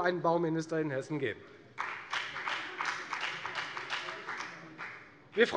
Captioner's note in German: Beifall bei der FDP